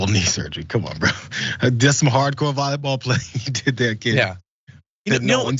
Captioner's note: laugh